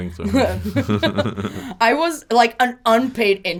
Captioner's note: both laugh